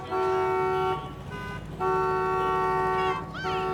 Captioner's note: horns honking